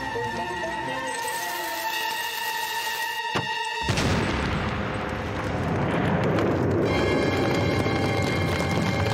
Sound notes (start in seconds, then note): 3.8 explosion